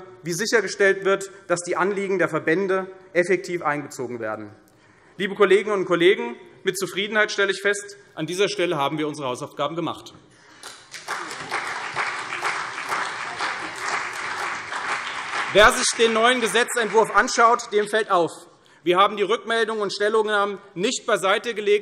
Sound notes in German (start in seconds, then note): 10.5 Beifall CDU und BÜNDNIS 90/DIE GRÜNEN